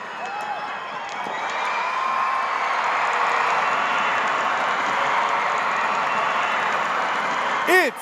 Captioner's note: crowd screaming and cheering